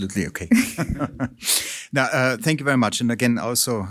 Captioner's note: chuckles